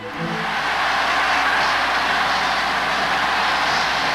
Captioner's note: people cheering